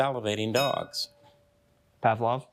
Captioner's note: bell dinging